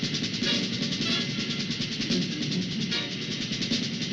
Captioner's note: machinery rumbling